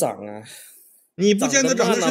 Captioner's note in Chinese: 泣不成声